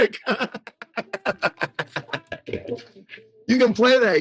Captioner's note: group laughing